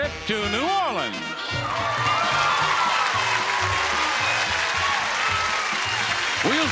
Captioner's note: lively music; audience applauding